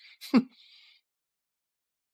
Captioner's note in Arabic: يضحك بسخرية